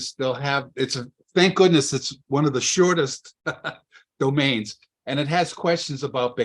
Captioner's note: laughs